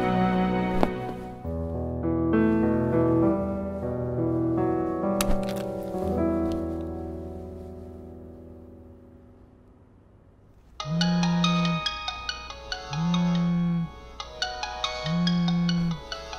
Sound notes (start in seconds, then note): 7.2 mom dialing